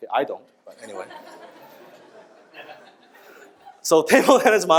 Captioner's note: audience laughs